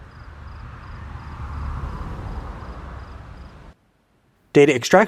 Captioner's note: car rumbles on road